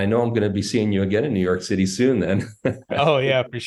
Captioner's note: laughs